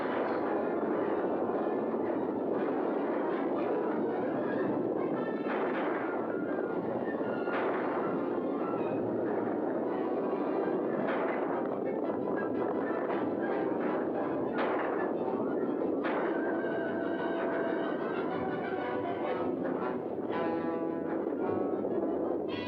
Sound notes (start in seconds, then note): 0.1 dramatic music; 0.1 hooves pounding; 5.4 dramatic music; 5.4 gunfire; 9.3 dramatic music; 9.3 hooves pounding; 14.4 dramatic music; 14.4 gunfire; 16.6 dramatic music; 16.6 hooves pounding